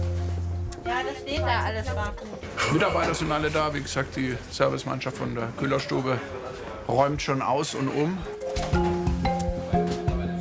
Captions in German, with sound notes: (Undeutliche Stimmen) Mitarbeiter sind alle da. Wie gesagt, die Servicemannschaft der Köhlerstube räumt schon aus und um. (Abwartende Musik)